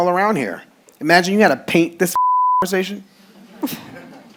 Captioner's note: beep